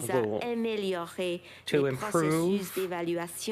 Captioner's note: speaking French